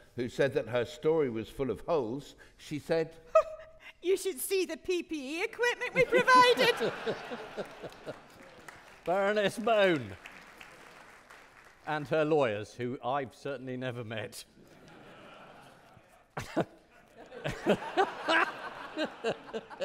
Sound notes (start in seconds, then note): 5.9 audience laughing; 9.1 audience clapping; 14.7 audience laughing; 16.4 laughing